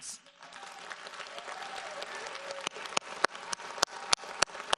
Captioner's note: audience applauds